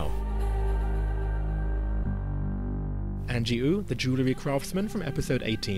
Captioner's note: voiceover